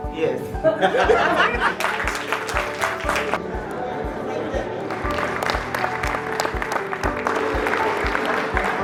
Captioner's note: applause; laugh